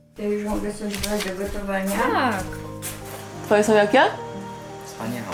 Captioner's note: people conversing in Polish